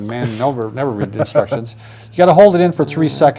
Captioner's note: laughs